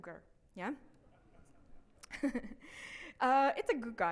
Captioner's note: man laughs